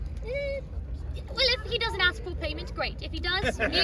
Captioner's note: Seamus morbidly chuckles in that not going happening